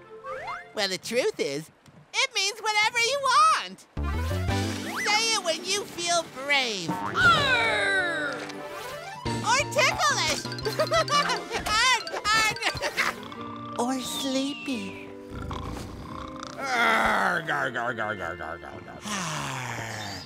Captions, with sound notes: Well the truth is, it means whatever you want, say it when you feel brave. Argh! Or ticklish! [giggling] Argh, argh! Or sleepy. Argh argh argh argh argh.